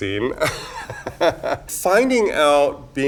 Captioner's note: Raja laughs